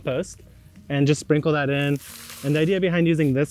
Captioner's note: compost rustling